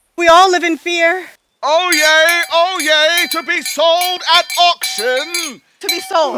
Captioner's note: bell Ringing